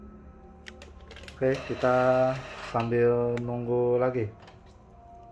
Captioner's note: printer machine sound